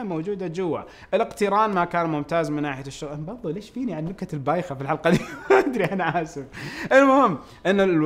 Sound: laughs

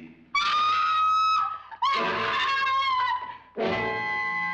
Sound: screaming; suspenseful music

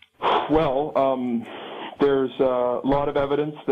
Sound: sigh

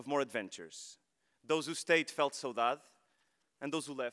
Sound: speaking foreign language

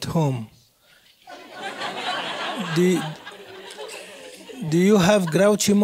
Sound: laugh

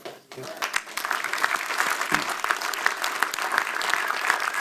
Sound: audience applauds

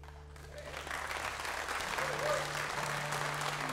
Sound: audience applauds

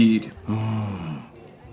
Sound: sigh

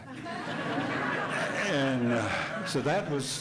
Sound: hearty laughing

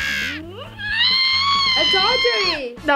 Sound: squealing

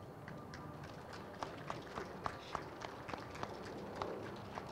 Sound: crowd applauds

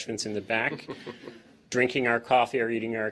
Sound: laughter

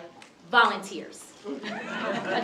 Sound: chuckles; laughter

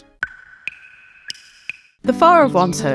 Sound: dripping sounds

